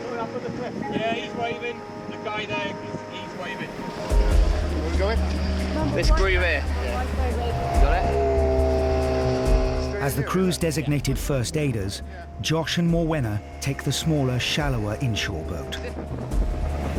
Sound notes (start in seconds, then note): 7.1 people chattering; 9.9 engine humming